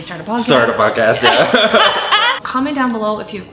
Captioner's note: laughing